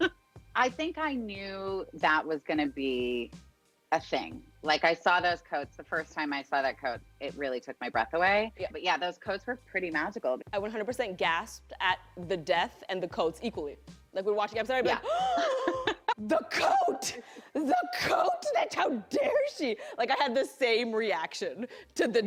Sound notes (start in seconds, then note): 0.0 laughs; 15.9 gasps